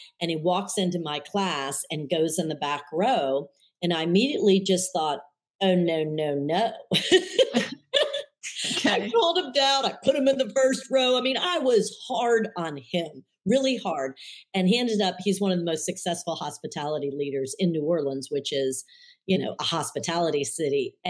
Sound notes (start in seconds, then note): 8.5 laughs